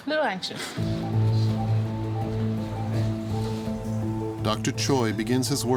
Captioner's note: dramatic music; machine beeping